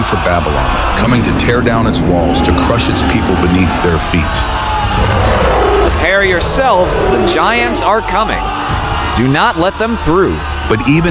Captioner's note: shouting